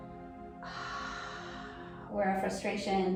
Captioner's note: exhaling deeply